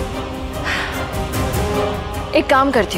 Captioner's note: Tipsy sighs